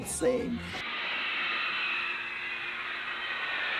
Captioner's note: cheers and applause